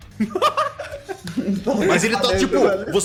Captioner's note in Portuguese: risada